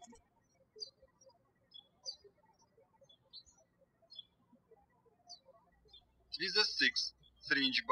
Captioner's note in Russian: птички щебечут